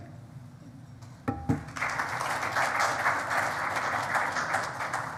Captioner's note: audience applauding